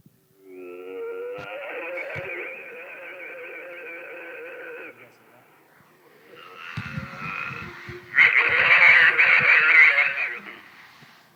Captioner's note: bigfoot vocalization